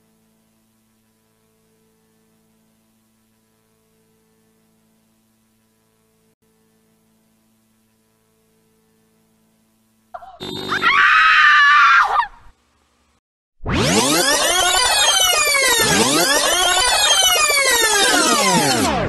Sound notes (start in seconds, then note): 10.2 corrupted scream